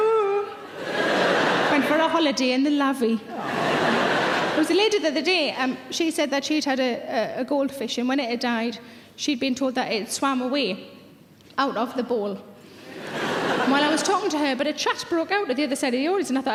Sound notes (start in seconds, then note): 3.3 audience laughs